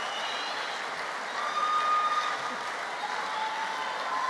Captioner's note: applause